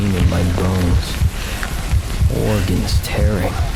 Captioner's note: bones cracking